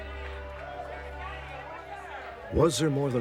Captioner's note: crowd cheering